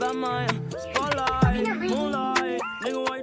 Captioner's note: chattering